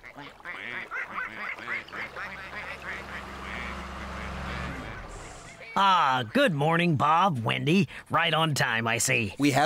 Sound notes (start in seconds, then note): 3.5 engines Running